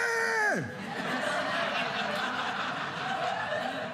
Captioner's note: audience laughing